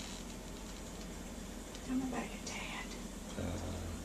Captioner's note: whispering